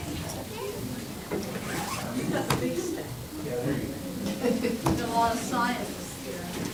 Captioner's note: crowd talking indistinctly